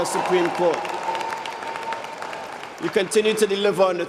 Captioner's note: applause